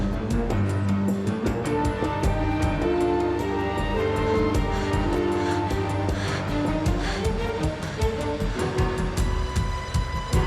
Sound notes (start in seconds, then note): 3.2 panting